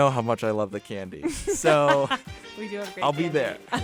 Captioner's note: laughs